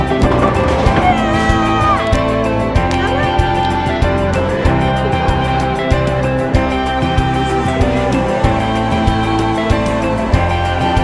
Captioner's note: cheering